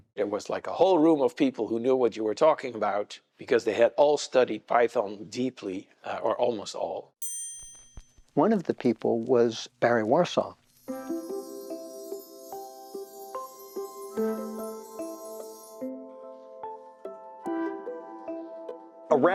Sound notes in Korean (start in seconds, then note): 7.2 종 소리